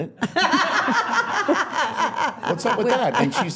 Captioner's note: laughing